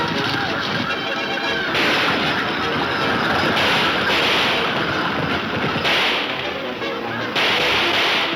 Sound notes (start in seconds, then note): 1.7 gunshots banging